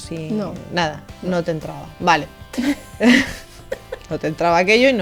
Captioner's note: laughs